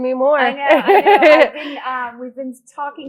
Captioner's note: laughs